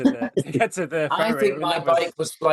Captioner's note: Charley laughing